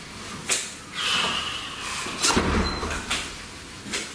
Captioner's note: loud exhale